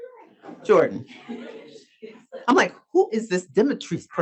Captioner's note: audience laughs